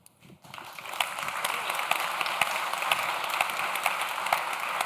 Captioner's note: audience claps